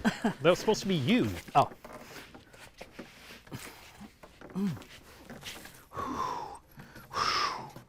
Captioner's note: chuckle; breaths of pain